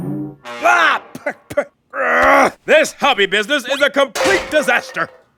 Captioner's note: spitting; groans